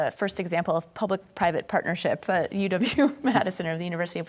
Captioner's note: laughing